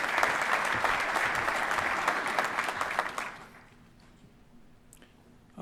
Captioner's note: applause